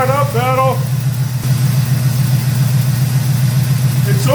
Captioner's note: engine idling